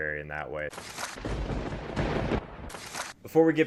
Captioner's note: papers shuffle; thunder booms